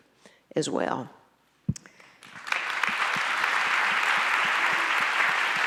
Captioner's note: audience applauds